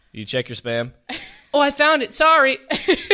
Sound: laughs

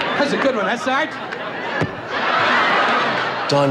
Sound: laughing

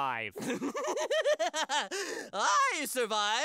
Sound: laughs

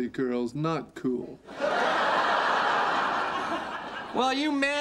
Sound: audience laughter

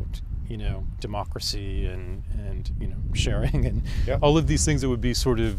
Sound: laughs

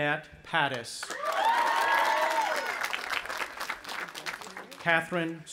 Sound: audience applauding and cheering

